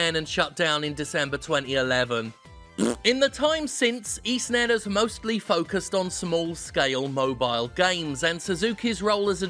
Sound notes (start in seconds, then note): 2.8 farting